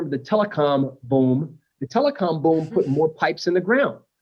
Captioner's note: laughter